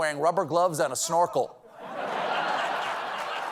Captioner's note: applause; laughter